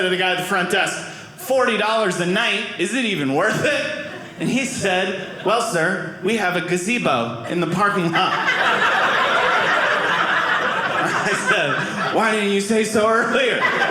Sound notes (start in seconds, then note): 7.4 audience laughing